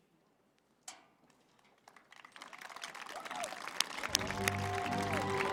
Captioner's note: applause